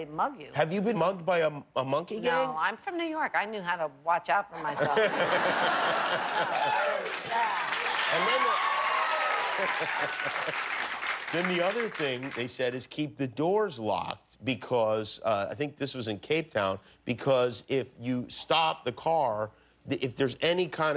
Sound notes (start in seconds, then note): 6.0 cheers and applause; 6.4 laughter